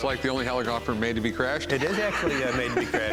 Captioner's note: laughs